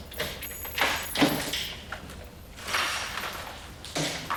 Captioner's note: lock rattling